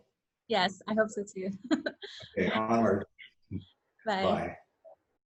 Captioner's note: laughs